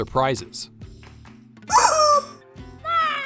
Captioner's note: chicken toy squawk